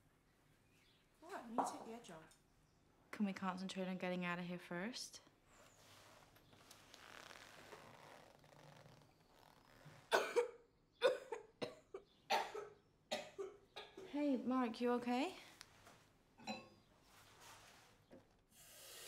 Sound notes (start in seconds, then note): 10.1 Mark coughs